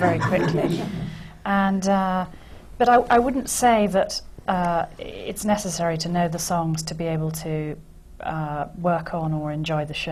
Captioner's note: laughter